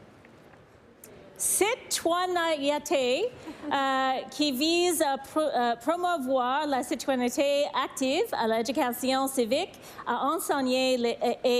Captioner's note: speaking french